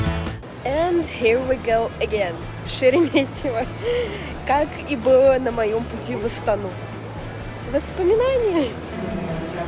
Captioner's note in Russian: смех